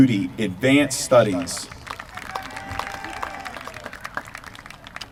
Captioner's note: applause